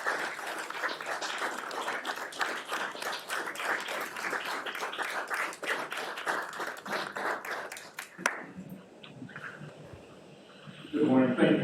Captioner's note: applause